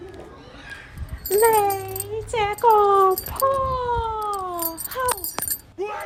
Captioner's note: Cantonese